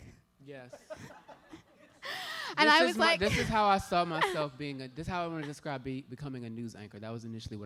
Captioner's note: laughter